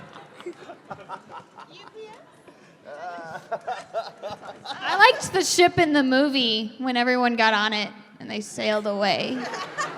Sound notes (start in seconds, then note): 2.7 continuing to laugh with reckless abandon